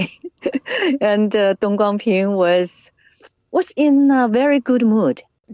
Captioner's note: laughs